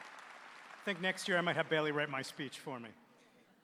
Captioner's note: applause